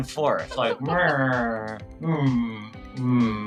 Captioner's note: laughing; mreows